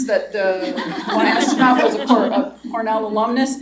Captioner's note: laughter